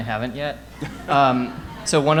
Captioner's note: audience laughing